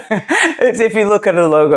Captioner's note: both laughing